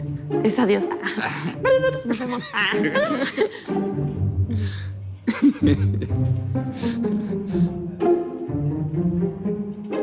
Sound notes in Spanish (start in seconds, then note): 0.0 Imita sonido electrónico; 1.6 Imita sonido electrónico; 2.9 Risas